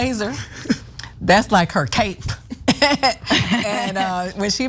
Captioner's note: laugh